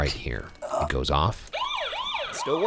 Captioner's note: alarm blaring